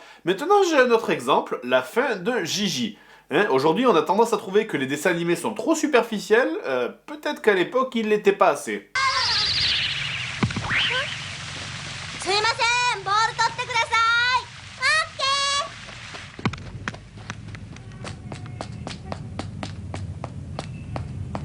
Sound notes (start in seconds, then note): 12.1 speaks in japanese